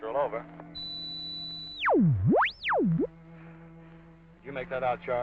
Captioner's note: high pitched ringing